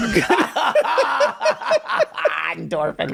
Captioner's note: laughing